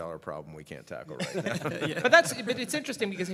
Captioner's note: laughter